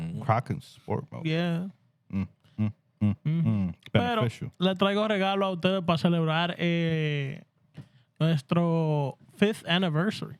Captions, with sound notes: Crocs in Sport mode. Yeah. Mm-hmm. Mm-hmm. (Speaking Spanish) So fifth anniversary.